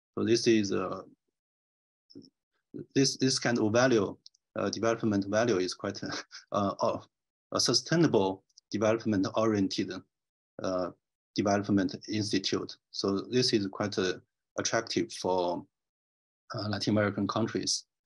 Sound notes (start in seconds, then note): 6.0 chuckles